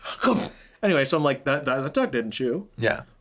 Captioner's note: chomps